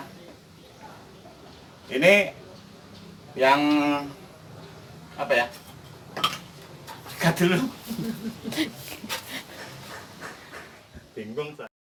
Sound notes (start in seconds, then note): 7.8 laughs